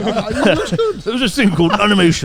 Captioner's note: all chuckling